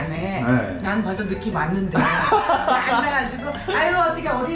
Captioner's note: laughing